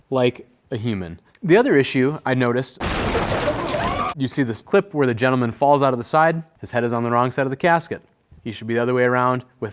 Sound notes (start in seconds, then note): 2.8 body crashing; 3.1 mourners screaming